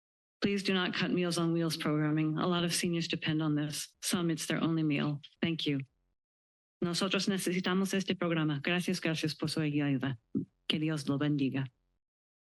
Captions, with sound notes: Please do not cut Meals on Wheels programming. A lot of seniors depend on this. Some, it's their only meal. Thank you. [foreign language]